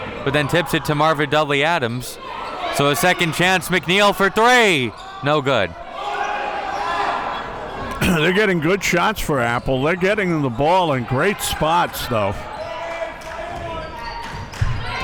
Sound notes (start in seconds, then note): 7.9 coughs